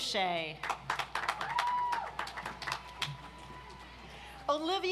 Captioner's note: audience applauds